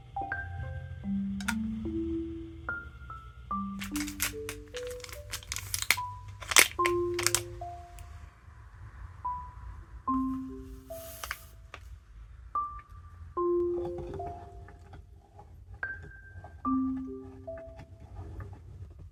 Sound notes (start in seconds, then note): 12.7 sound of opening a bag of Blendy